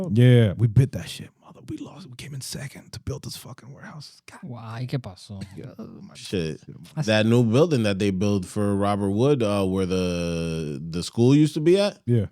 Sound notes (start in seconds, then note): 4.4 speaking Spanish